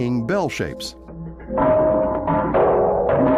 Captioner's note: clanging